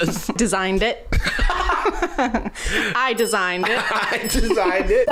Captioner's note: laughter